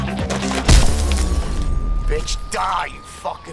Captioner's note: glass shattering